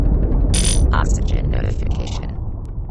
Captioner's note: oxygen notification